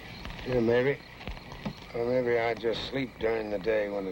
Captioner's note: none